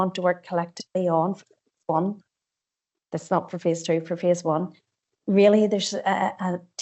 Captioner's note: audio distorts 54.15